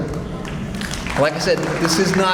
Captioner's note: audience applauds